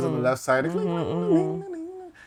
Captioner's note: humming